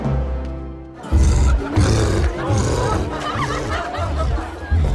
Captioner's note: crowd laughing; cyclops growling